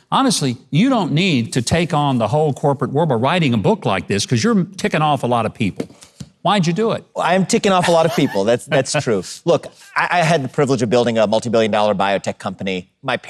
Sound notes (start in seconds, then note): 7.8 laughing